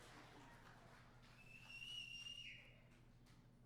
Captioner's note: applause